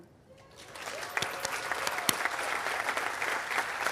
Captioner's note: audience applauding